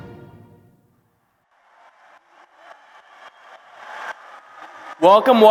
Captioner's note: applause